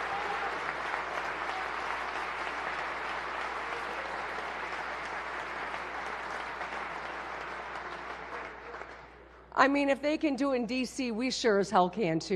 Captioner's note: applause